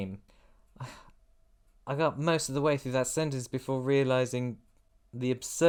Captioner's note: sigh